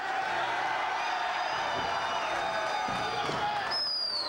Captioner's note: crowd cheers